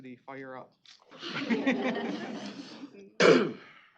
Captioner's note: laughter